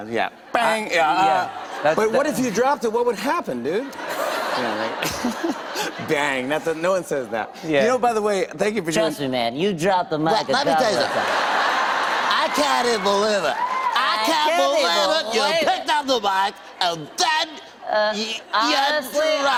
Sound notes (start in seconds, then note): 3.8 laughter; 10.5 laughter